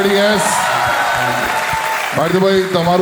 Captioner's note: crowd applauding